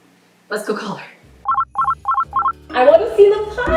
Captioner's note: phone rings